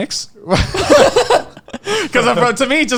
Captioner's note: all laughing